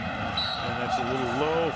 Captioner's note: whistle blows